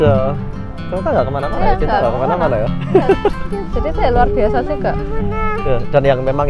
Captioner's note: chuckle